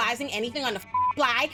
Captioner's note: beep